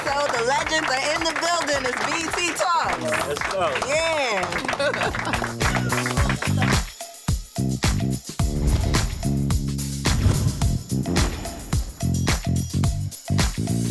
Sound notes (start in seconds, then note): 4.1 laughs; 5.1 applause; 5.2 mid-tempo music